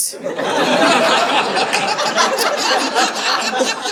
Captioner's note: audience laughing